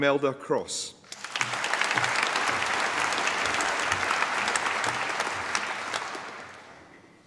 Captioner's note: applause